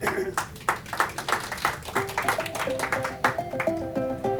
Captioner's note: applause